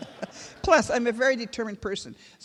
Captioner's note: laughter